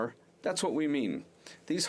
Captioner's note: speaking FRENCH